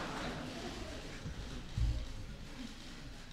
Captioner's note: laughter